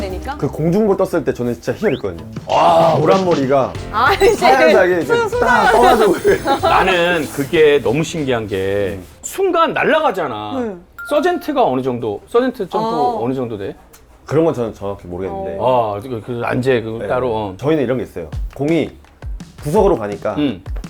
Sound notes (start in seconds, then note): 5.4 swoosh